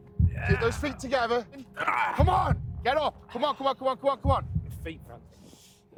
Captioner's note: grunting